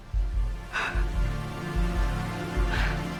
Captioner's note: exhales heavy